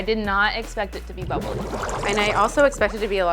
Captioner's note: bubbles bubbling